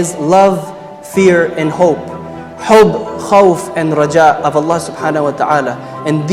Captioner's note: says them in Arabic